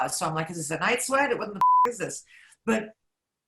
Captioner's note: beep